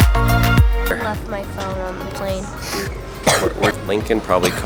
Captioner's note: coughs